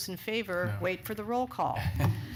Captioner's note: laughter